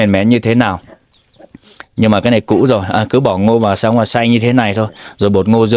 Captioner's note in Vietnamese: khịt mũi